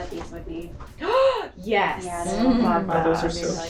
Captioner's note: gasp!